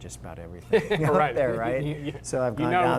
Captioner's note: laughter